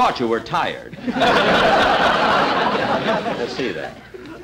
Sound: audience Laughing

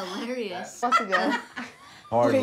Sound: laughter

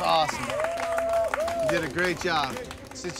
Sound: cheering

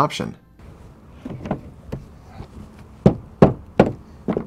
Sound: thud, thud, thud of mallet striking the board, no additional audio

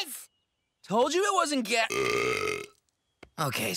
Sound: belches

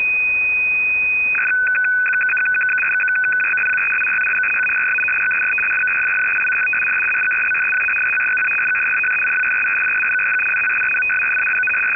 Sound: modem sounds

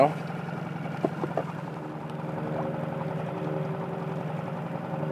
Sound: boat engine chugging

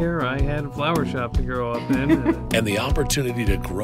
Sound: laughing

